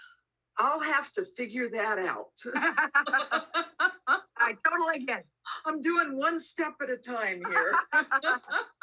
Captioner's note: group laughter